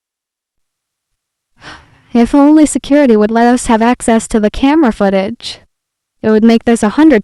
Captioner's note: sighs